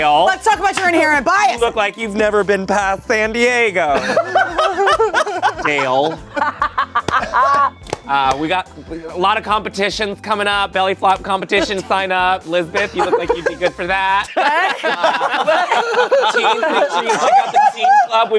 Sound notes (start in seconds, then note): 3.9 laughing